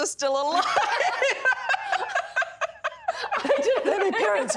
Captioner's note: laughs hysterically